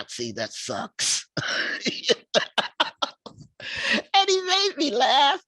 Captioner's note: laughing